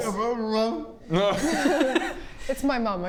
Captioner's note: laughs